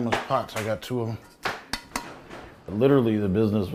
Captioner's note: tap, tap